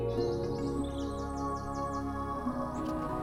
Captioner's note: birds chirping; upbeat music